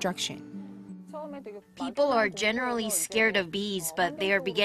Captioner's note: Korean